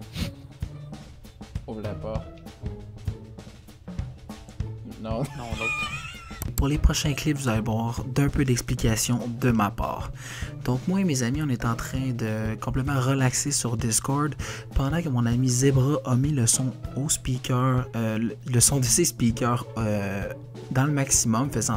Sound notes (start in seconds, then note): 5.2 laughs